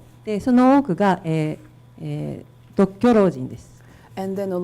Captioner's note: speaking foreign language